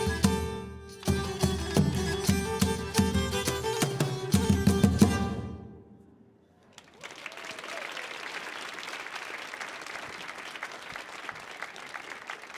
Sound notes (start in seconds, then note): 1.5 lively music continues; 6.6 audience applauding